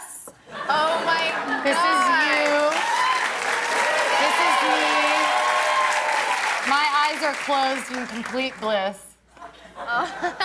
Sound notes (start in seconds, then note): 4.1 cheers and applause